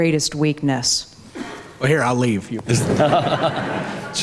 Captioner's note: everyone laughs